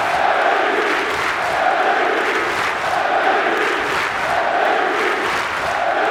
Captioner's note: cheers and applause